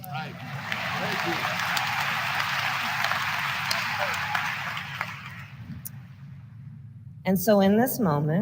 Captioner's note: applause